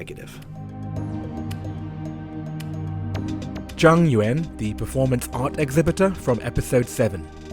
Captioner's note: voiceover